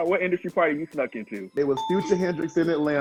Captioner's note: bell chiming